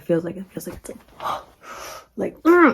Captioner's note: gasps